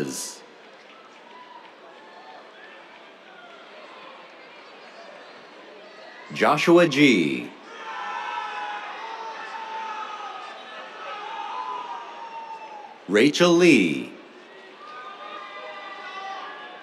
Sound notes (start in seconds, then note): 0.5 applause; 7.6 cheers; 14.3 cheers